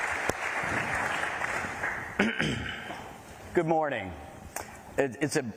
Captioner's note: applause